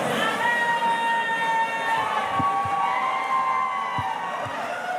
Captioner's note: audience cheering